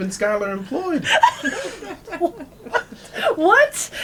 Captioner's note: laughter